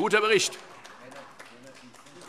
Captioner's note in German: Beifall